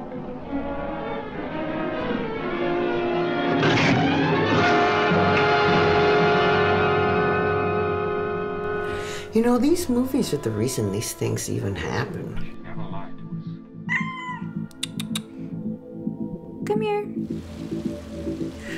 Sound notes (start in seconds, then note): 0.1 dramatic music; 13.8 cat mewing; 14.7 tsking